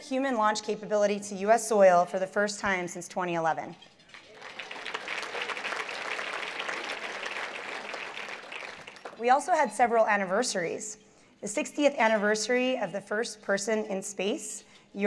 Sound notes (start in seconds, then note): 4.1 applause